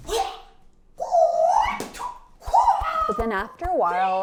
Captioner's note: nunchuck whirls